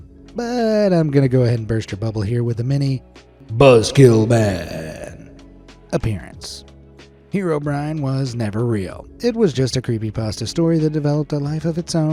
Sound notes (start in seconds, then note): 3.2 in a dramatic voice